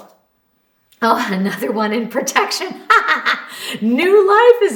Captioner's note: laughs